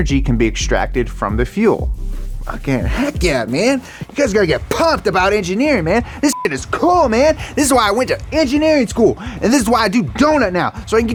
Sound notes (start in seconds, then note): 6.3 beep